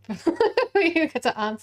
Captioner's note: laughs